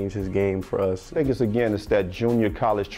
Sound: voiceover

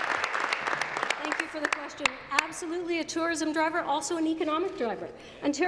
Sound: applause

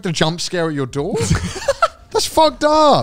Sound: laughs

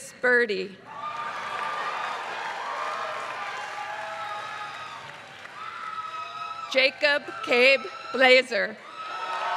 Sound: applause; applause

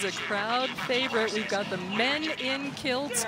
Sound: cheering and Applause

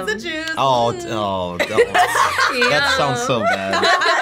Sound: all laughing

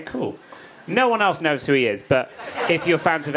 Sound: audience laughing

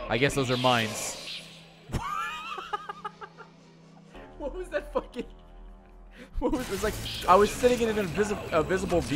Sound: laughs

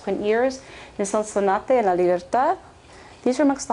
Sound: speaking spanish

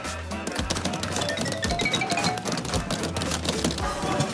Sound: hits

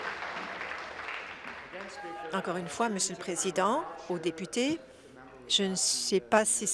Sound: applause

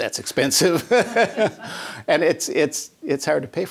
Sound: laughter

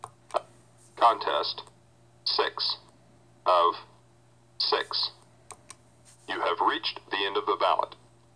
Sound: computer voice

